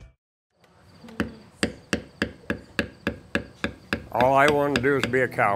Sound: hammering

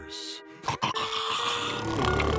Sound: snoring

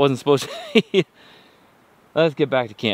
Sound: laughs

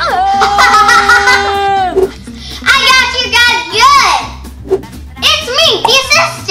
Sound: gasps; laughs

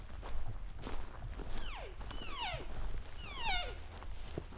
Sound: caller cow calling

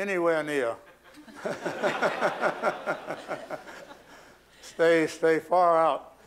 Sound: laughter

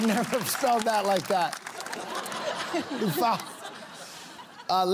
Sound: laughter

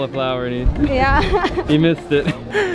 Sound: laughs

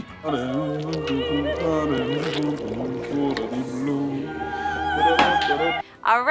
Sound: dramatic opera music; humming

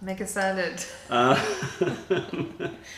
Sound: laughter

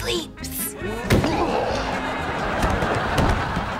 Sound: groaning

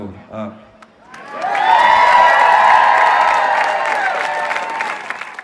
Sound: crowd cheers

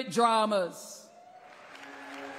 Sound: applause

